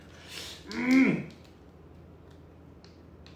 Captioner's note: grunting